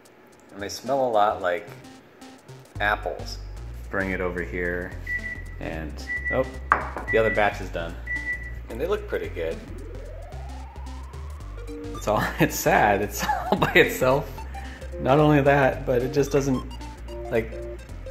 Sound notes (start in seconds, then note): 5.0 beep beep